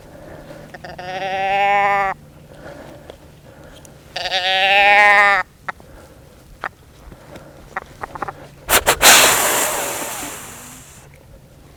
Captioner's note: calls